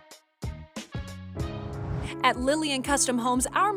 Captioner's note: whoosh